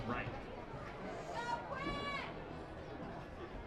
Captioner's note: woman shouting